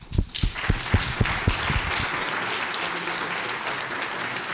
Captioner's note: applause